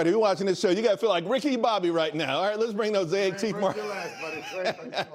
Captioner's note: laughter